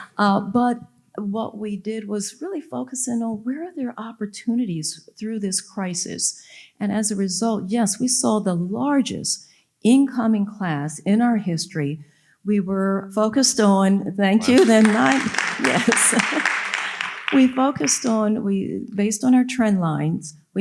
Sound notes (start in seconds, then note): 14.4 audience applauding